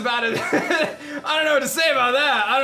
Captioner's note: laughs